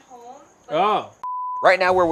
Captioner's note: scene beeping